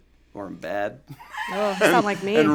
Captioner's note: group laughs